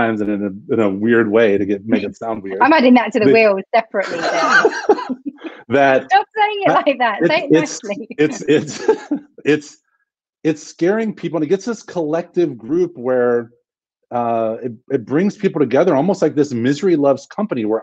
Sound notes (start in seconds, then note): 4.0 laughs